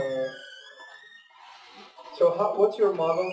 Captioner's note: pause